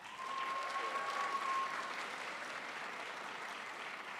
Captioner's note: crowd applauds